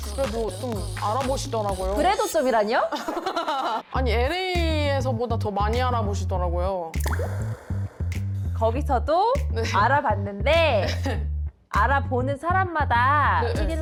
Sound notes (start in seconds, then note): 0.0 scratching sound effect